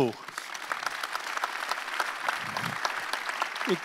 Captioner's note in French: Applaudissements